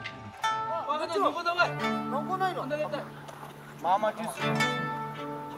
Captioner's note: speaking in foreign language